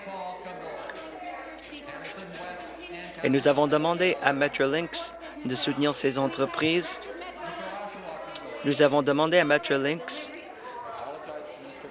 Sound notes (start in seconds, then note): none